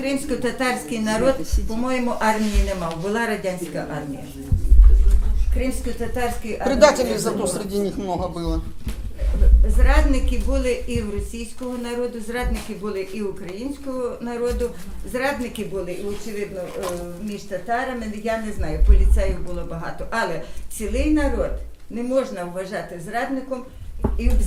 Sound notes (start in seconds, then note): 0.7 speaking Ukrainian; 6.8 speaking Russian